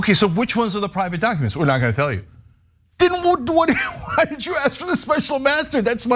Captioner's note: laugh